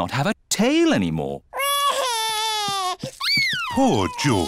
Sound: crying

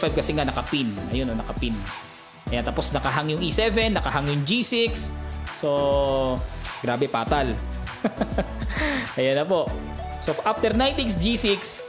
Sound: laughing

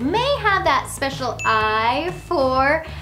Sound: eye tinkles

